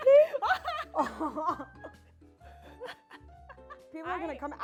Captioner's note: laughs